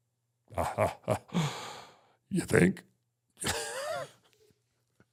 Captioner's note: laughs